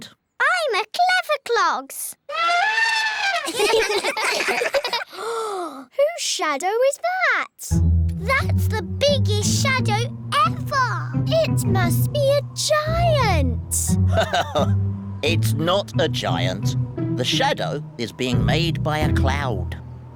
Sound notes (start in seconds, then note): 2.2 trumpets; 3.0 all giggle; 5.0 gasps; 14.0 laughs